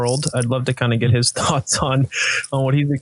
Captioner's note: chuckling